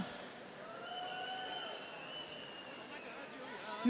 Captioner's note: audience cheering